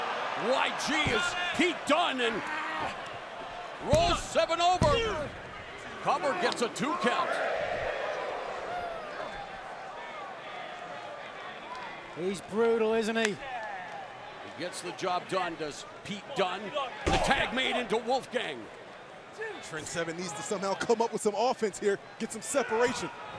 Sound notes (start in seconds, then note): 8.9 crowd cheering